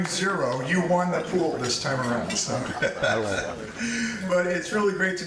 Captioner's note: chuckles